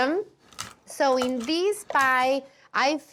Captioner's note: none